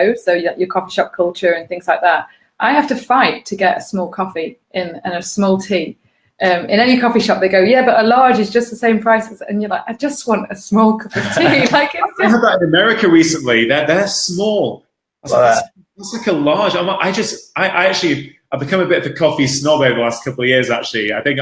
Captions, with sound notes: so you got your coffee shop culture and things like that, I have to fight to get a small coffee and a small tea. In any coffee shop they go yeah, a large is just the same price. I know that, I just want a small cup of tea. (laughing) - I did that in America recently, they're small is like a large, I actually have become a bit of a coffee snob over the last couple years actually.